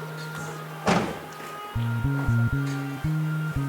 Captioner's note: car doors close